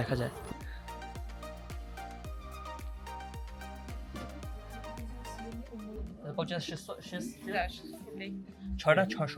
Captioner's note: speaking Russian